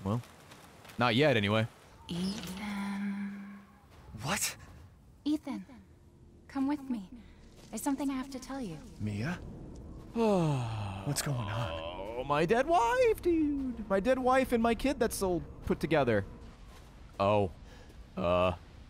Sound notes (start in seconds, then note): 10.1 groans